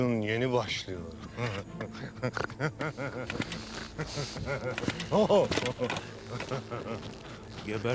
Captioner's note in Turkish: Gülme sesi